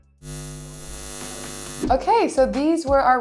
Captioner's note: audio buzzing